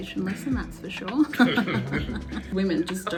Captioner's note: laughs